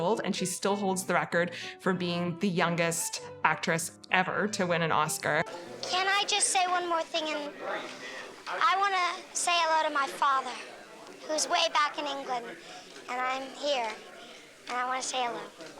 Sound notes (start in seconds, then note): none